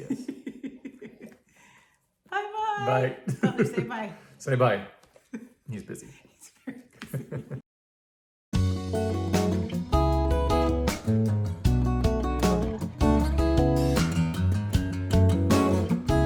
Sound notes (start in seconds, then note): 0.0 laughs; 3.2 laughs; 8.5 laid back music